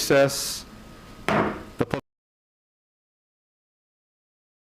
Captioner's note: hammer thudding